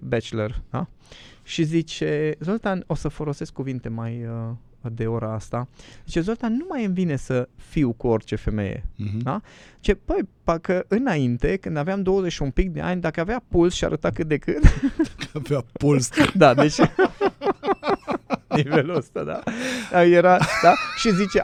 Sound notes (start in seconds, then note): 14.6 laughter